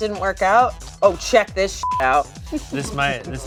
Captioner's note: beep